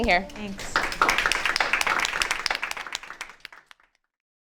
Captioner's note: audience applauding